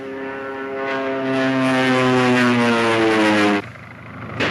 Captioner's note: engines roar